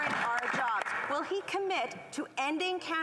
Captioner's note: applause